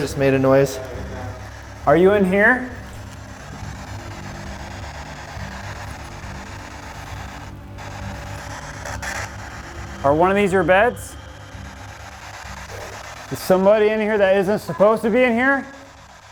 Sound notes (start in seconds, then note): 4.5 radio static